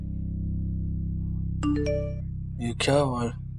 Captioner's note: phone beeping